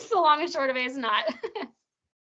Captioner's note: chuckling